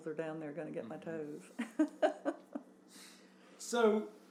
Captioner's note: laughs